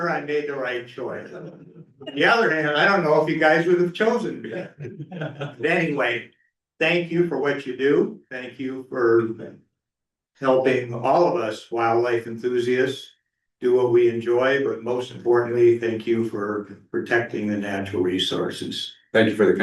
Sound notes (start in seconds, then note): 4.3 laughter